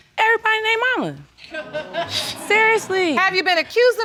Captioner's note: audience laughing